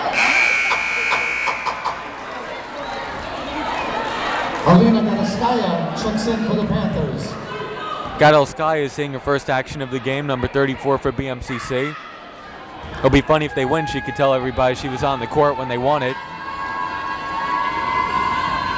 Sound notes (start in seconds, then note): 0.1 buzzer blaring